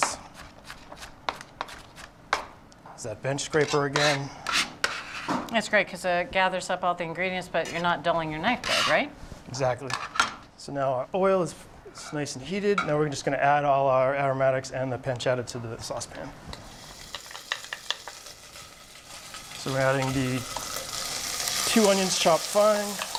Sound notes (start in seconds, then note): 16.4 sizzling